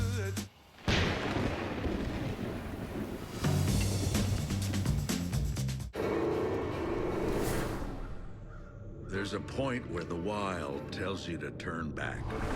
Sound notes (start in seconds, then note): 3.2 thunder rumble